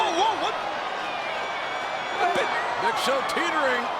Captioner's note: audience cheers